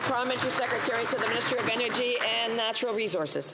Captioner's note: applause